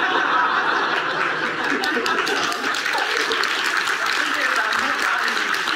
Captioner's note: audience laughs and applauds